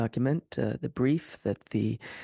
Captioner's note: speaking French